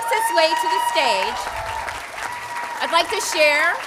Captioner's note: audience applauding